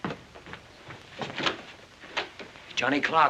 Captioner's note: door opens